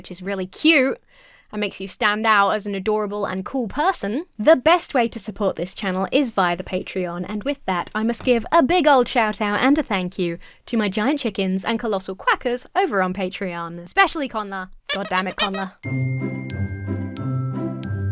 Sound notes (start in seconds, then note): 14.9 lighthearted music; 14.9 toy squeaks